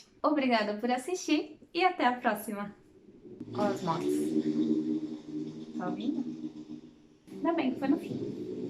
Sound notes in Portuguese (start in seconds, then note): 3.3 barulho de moto